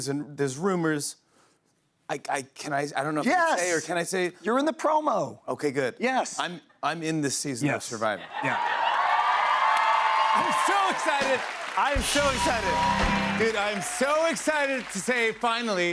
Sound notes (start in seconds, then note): 8.8 cheers and applause